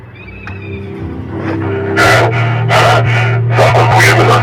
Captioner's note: breathes